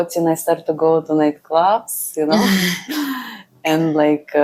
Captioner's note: laughs